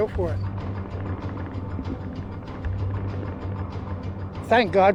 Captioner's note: muffled gunshots